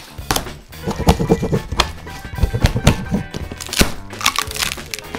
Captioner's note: sounds of tape snapping